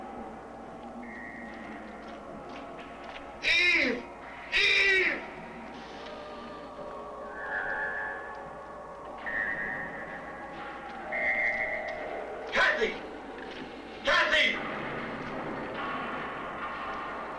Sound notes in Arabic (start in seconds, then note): 0.6 صوت خطوات قوية; 4.9 موسيقى غريبة; 14.1 موسيقى غريبة